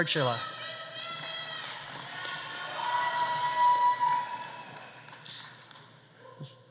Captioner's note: audience cheering; audience applauding